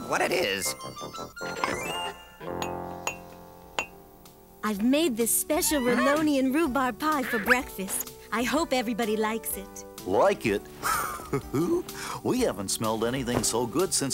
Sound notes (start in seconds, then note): 9.8 laughs